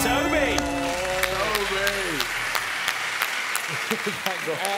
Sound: chiming; cheering

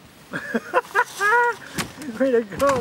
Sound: laughter

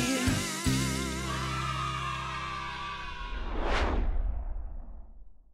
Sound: children cheering

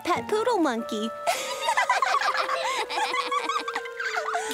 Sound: laughing

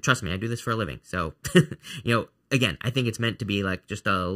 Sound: chuckling

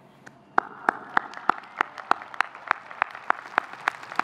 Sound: audience clapping

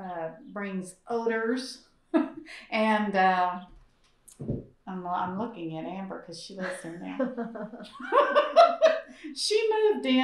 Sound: laughs; laughter

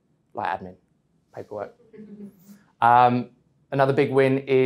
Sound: audience chuckling

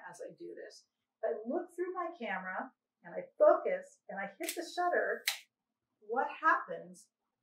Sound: sound of shutter

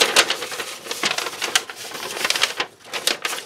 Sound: paper continues to crinkle

